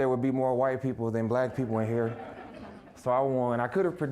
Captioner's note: audience laughing